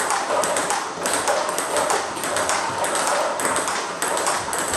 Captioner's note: ball ping pong hitting continues